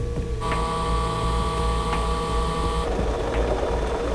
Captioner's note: very loud machines